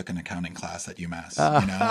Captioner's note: laugh